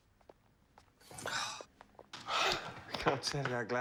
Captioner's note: gasps